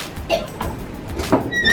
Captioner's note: coughs